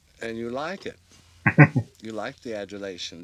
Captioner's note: chuckling